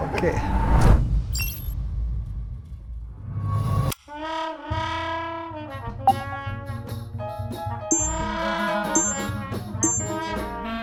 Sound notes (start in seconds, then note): 1.0 logo beeping; 5.4 jazz music